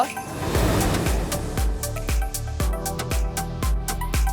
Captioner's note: graphics swoosh; bubbly music